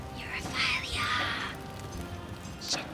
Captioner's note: whispers